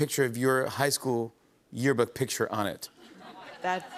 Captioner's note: laughter